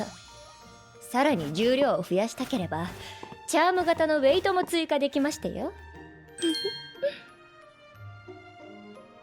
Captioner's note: laughs